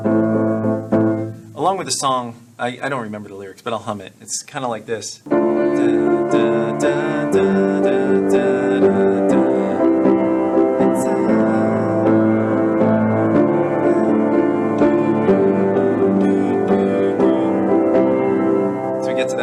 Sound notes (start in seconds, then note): 12.0 humming